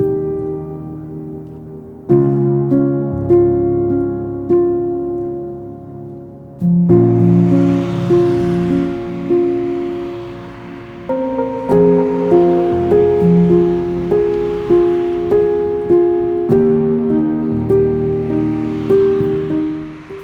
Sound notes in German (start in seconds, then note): 0.0 ruhige Klaviermusik; 6.8 entferntes Geräusch des Straßenverkehrs; 7.3 ruhige Klaviermusik